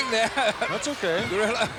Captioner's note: laugh